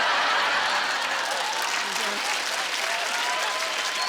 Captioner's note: laughing; applause